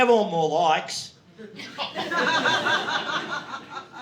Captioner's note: audience laughing